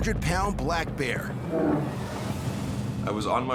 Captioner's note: bear growls